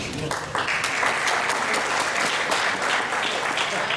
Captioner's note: applause